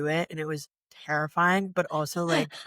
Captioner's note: laughter